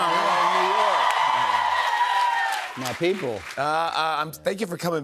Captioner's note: cheers and applause